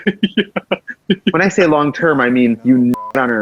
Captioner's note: laughs; beep